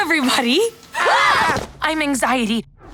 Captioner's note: screaming